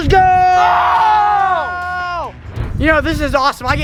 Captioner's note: exclaims angrily